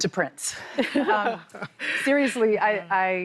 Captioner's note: laughter